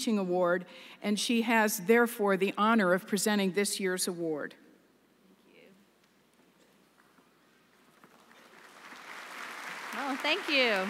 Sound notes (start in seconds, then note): 7.8 applause